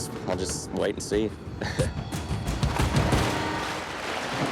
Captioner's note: laughs